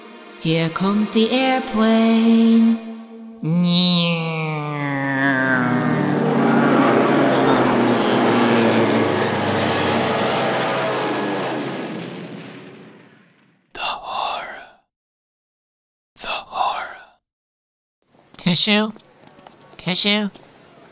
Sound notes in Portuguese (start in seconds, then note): 3.3 Imitando rugido do avião; 7.7 Ofegante; 13.5 Whispering